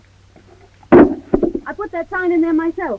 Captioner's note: sign clatters